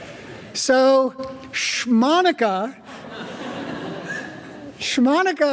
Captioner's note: audience laughing; audience laughing